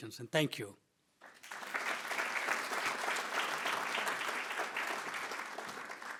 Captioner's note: attendees applauding